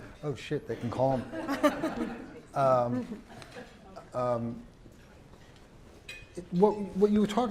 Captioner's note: laugh